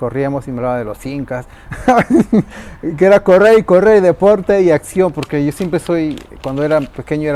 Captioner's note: laughs